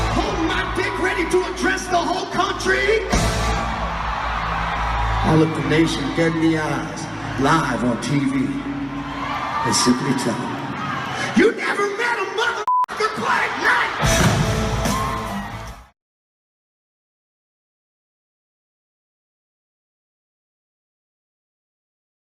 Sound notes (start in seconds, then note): 12.6 beep